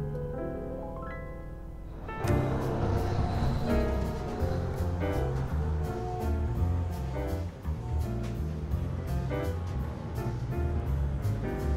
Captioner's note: car horns honking